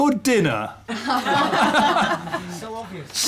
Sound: laughter

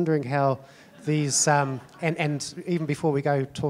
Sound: audience laughing

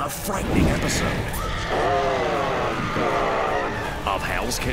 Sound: intense groaning

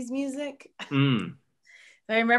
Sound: laughs

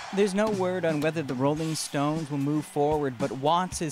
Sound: cheers and Applause

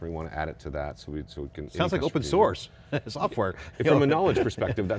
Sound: laughing

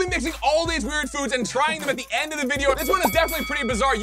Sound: bell dinging

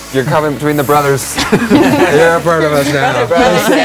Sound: laugh

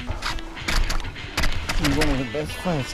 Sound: line being pulled out

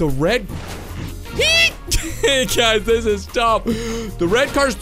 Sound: laughing

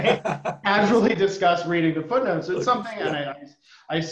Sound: laughter

